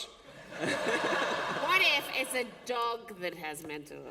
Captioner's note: laughter